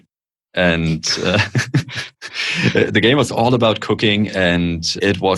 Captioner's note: laughter